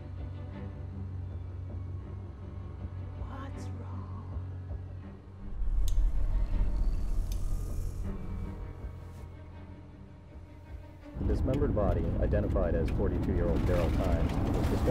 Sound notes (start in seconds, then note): 0.2 suspenseful music; 11.4 radio Announcer; 13.9 car rumbling